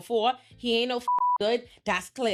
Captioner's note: beep